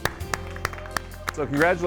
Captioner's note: clapping